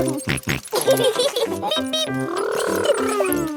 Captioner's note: both laughing